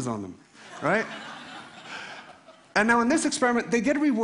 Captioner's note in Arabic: ضحك